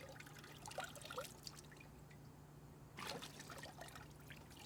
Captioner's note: water splashing